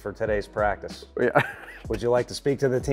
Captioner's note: chuckles